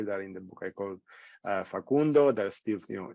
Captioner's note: speaking in foreign language